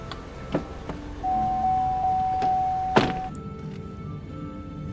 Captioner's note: car beeps